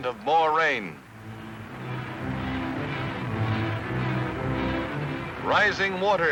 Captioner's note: music, water rushing